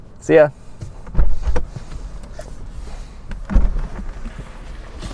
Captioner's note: low thuds